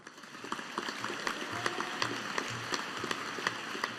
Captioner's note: audience applauding